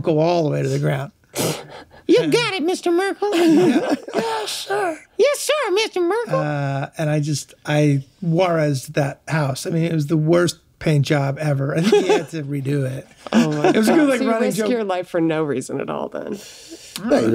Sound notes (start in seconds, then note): 1.4 laughs; 3.3 all laugh